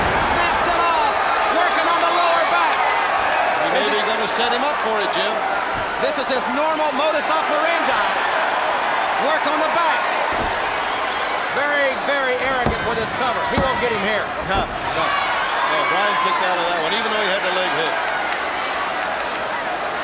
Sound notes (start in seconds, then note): 10.1 body thudding; 11.9 hands thudding